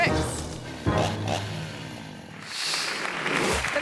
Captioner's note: chainsaw revving; audience applauding